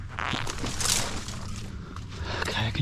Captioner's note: leaves rustling